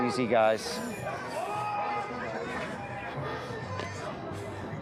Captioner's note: chatter